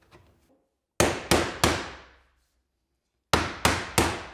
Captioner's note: mallet pounding